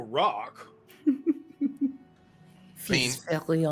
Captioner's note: chuckling